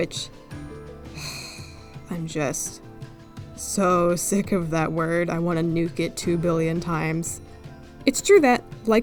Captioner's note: sigh